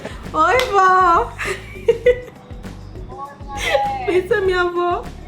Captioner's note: woman speaking Portuguese